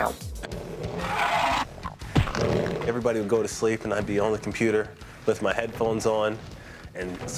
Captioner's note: growling